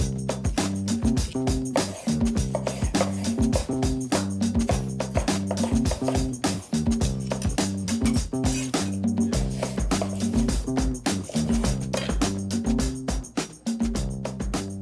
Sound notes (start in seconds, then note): 0.3 lively music; 7.6 knife tapping